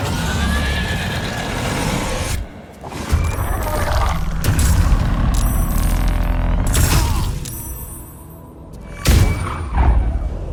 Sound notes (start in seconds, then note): 0.1 creature roaring; 4.9 characters fighting; 4.9 solemn music